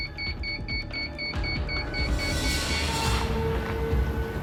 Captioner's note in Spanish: Bip repetitivo